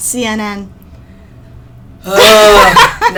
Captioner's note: groan